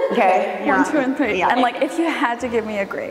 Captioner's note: laughing